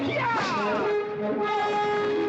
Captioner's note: cracking whip; dramatic music